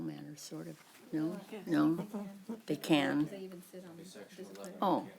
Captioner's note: indistinct chatter